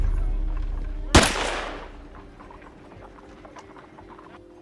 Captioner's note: gun firing